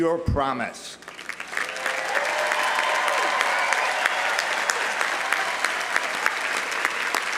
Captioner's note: audience applauding; audience cheering